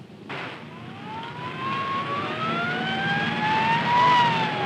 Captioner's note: siren wailing